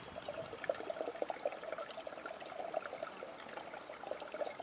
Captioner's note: water running